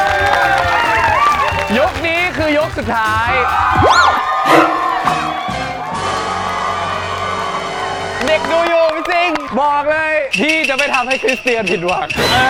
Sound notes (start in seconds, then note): 5.1 cheers from the packed crowd